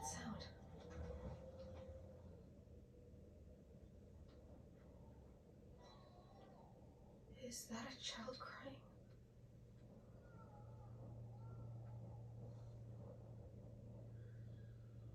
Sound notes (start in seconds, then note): 5.8 a baby was crying and wailing; 9.8 wailing continues